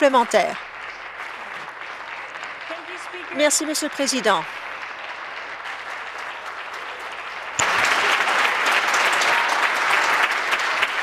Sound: applause

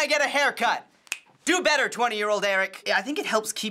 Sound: snaps fingers

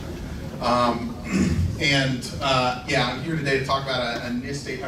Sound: clears throat

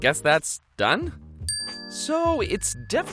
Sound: dings

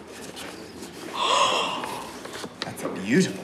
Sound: Amanda gasps

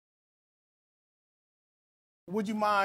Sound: pause

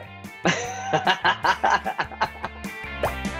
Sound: laughing

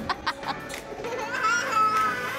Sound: laughs

